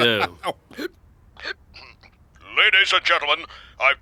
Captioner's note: laughing